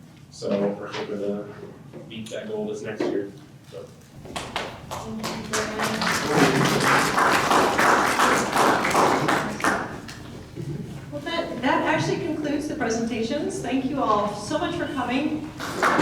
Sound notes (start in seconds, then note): 4.1 clapping